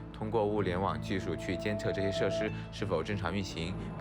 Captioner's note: speaking Chinese